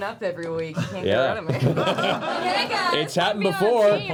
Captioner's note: laughter